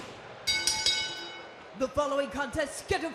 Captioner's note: crowd cheering; bell ringing